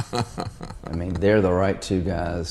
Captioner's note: laughs